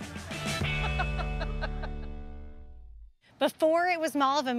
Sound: laughs

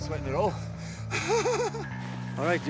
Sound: laughs

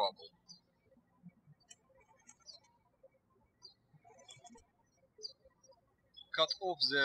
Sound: birds chirping

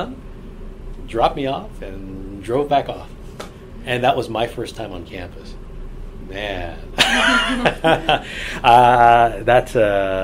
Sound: all laugh

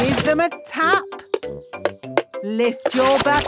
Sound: taping

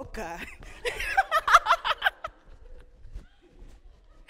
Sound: laughing

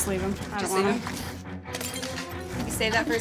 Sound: breaking glass

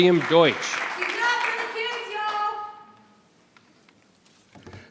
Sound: woman shouting

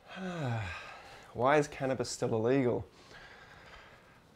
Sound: sighs

